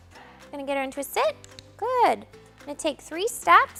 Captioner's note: clicker clicks